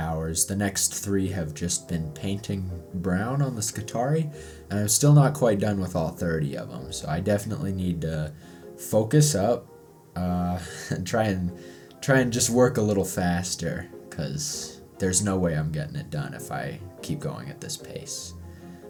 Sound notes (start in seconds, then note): none